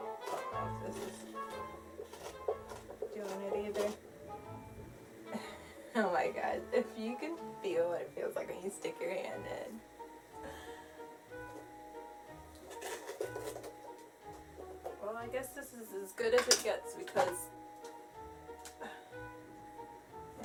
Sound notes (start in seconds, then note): 5.3 laughs; 10.1 laughs; 12.4 scraping